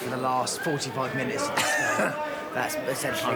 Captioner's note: chuckles